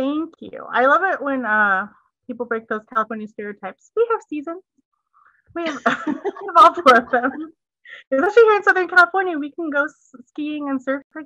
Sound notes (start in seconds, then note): 8.2 laughter